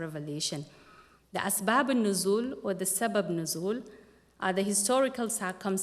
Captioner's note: non-english speech